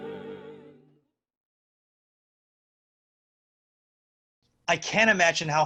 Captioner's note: silence